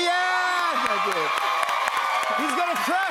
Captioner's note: cheers and applause